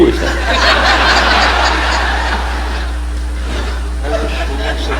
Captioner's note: audience laughing